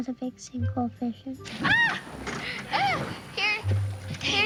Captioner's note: yelps